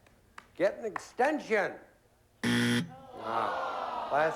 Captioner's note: buzzer